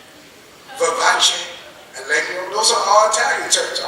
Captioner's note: speaking in foreign language